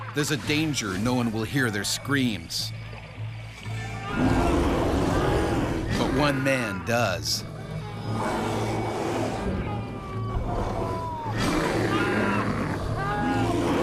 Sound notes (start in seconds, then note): 3.9 bear growling; 8.1 screaming